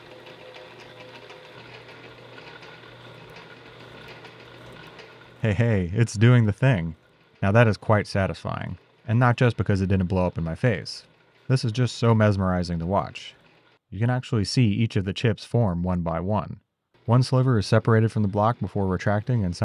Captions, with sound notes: (shaper whirring continues) Hey, hey, it's doing the thing. Now that is quite satisfying. And not just because it didn't blow up in my face. This is just so mesmerizing to watch. You can actually see each of the chips form one by one. One sliver is separated from the block before retracting